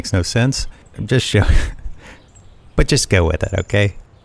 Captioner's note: chuckles